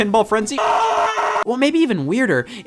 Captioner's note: screaming